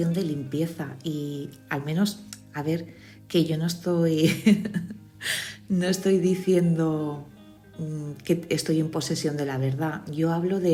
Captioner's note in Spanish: risas